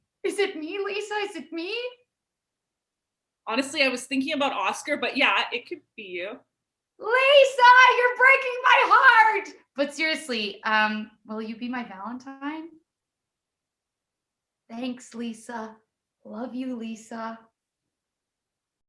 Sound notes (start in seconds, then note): 14.1 hushed